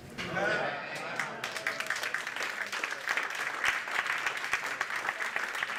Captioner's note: crowd murmurs; applause